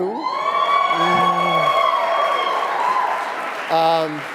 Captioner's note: audience cheering